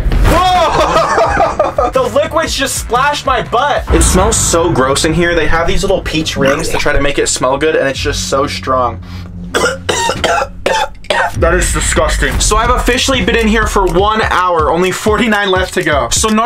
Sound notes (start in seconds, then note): 9.5 coughing